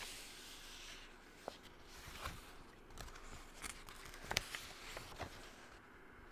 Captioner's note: page turning